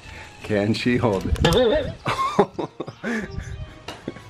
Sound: laughing

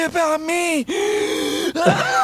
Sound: wheeze; laughs

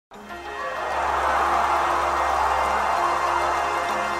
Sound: crowd cheers as music plays

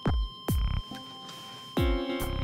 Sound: flatline tone continues

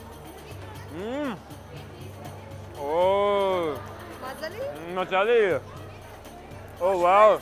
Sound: in foreign language

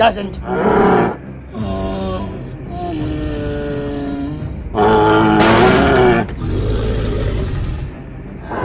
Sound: Triceratops growling and stomping

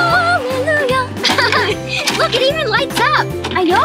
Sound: sings; laughing; box clacks

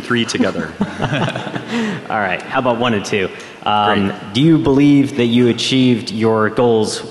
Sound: laughter

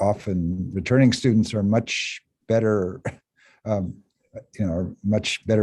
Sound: chuckle

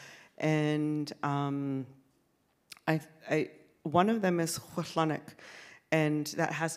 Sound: speaks in Sk1wx1wu7mesh

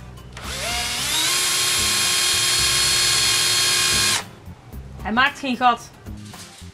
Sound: drilling sounds

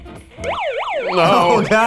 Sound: sirens

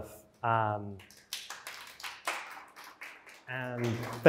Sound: applause

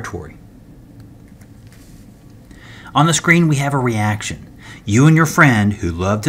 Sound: turn page

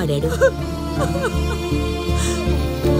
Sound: crying

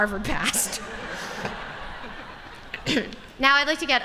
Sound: laughter

